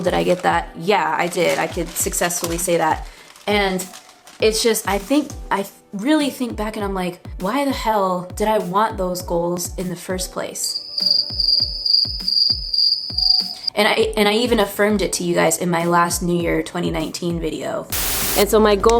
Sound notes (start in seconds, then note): 10.7 crickets